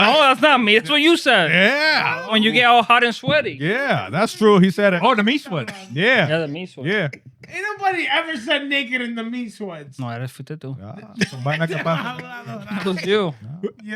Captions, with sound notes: Hold on a second, it's what you said. Yeah. When you get all hot and sweaty. Yeah, that's true, he said it. Oh, the meat sweats. Yeah. Yeah, the meat sweats. Ain't nobody ever said naked in the meat sweats. No, that's what they do. (Laughing) It's just like, I'm not gonna lie. It's just you.